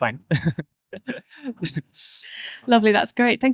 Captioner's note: laughter